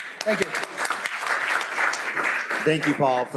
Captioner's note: applause